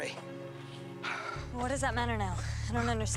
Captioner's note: panting